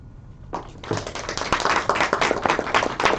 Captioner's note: applause